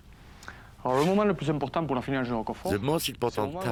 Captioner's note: speaks in french